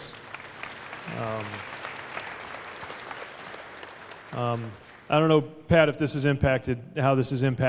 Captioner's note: applause